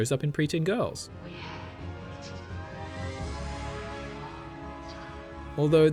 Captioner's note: whispering